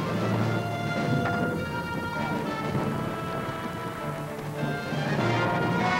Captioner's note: gun fire